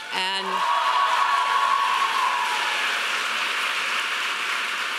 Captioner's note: audience applauding